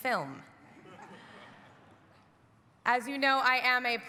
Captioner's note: audience laughs